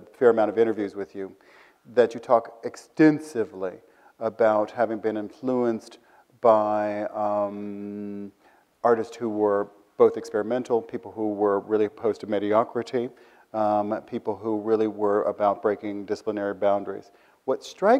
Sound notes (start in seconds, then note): none